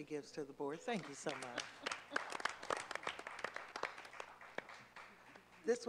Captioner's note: clapping